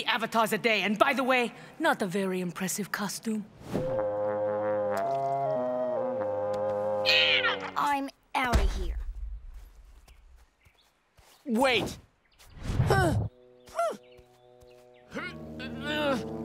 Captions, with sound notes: and by the way, not a very impressive costume. [squawking] I'm out of here. [stomping] Wait. [groaning] [grunting]